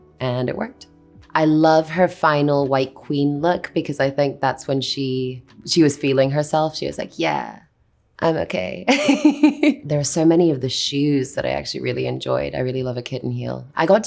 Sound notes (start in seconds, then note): 8.8 Anya laughs